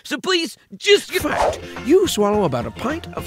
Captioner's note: voiceover